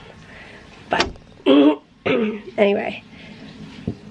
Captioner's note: clears throat